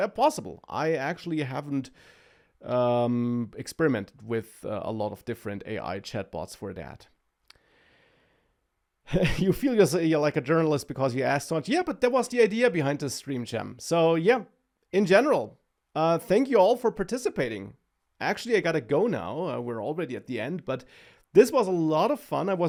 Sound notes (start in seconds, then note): 9.1 laughs